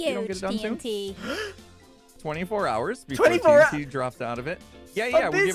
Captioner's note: gasps